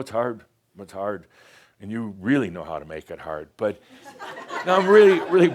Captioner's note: more chuckles